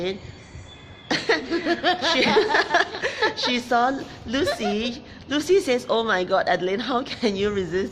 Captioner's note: laughs